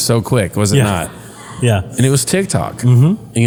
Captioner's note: laugh